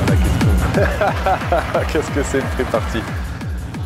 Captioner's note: laughter